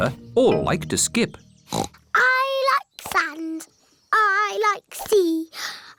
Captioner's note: oinks